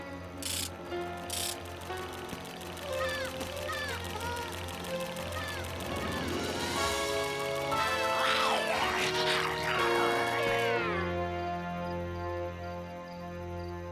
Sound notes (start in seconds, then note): 2.8 bleating mechanically; 7.7 werewolf snarling